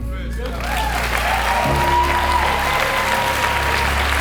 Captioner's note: applause